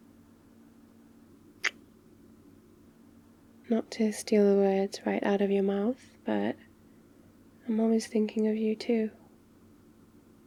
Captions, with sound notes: *kiss* not to steal the words right out of your mouth but... I'm always thinking of you too